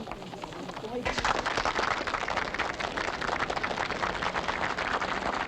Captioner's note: audience applauding